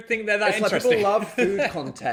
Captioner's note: laughs